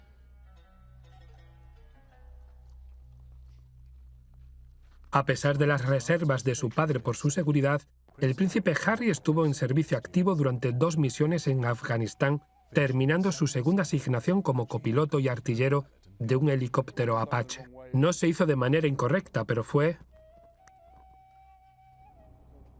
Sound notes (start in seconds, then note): 0.0 slow string music; 5.2 voiceover; 20.1 slow instrumental music